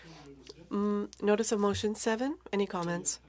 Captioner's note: speaking French